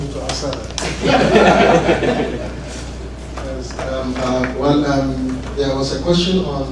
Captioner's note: laugh